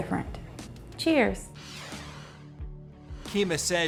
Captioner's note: air whooshes